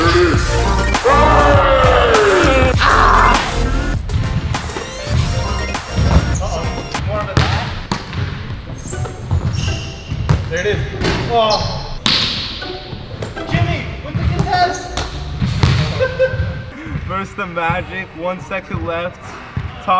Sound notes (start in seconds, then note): 2.2 player growls; 4.9 upbeat techno music; 8.7 player murmurs; 11.0 ball hits rim; 11.4 player grunts; 12.3 staccato piano music